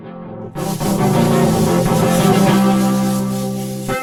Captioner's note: lasers firing